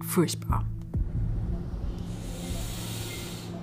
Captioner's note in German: Schmerzerfüllte Laute